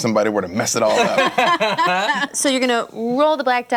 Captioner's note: laughter